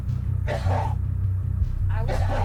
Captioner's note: man coughs